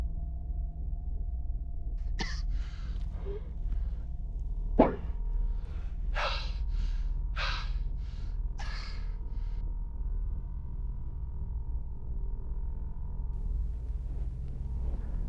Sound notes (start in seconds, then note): 2.2 Andrew coughs; 5.6 Andrew gasping; 11.3 low distorted ominous tone